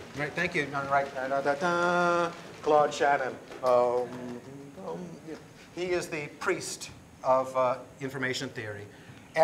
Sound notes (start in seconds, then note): 1.2 humming